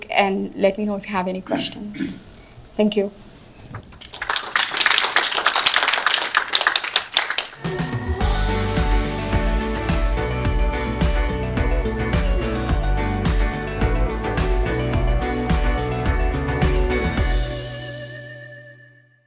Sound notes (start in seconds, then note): 4.0 applause